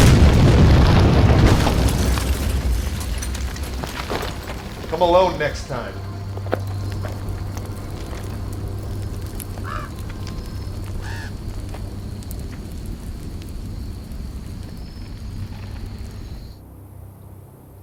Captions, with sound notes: (car exploding) - Come alone next time. (bird squawking)